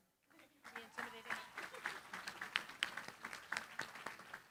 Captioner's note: applause